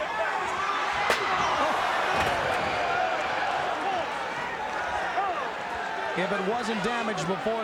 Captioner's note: chair slams; crowd groans